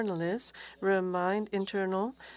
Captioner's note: speaking FRENCH